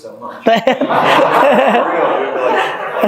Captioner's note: group laughing